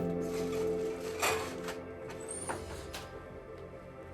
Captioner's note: dish clatters